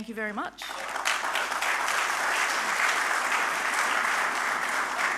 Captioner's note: audience applauding